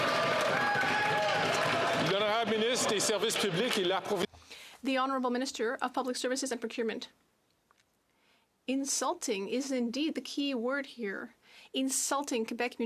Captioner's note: some Applause